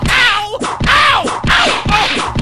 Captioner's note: whip crack!